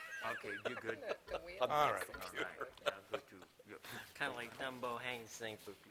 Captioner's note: laughter